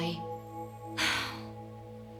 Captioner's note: sighs